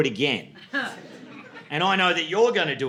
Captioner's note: laughter